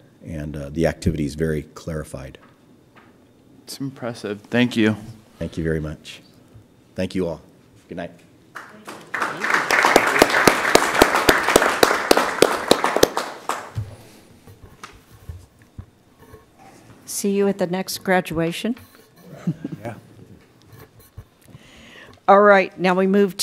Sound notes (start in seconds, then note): 8.5 applause